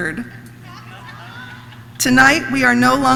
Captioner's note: audience laughs